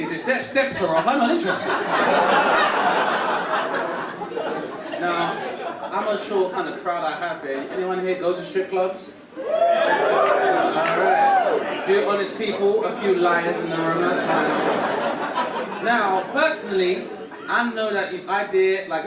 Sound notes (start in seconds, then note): 3.3 audience laugh; 9.4 audience woop; 15.6 audience laugh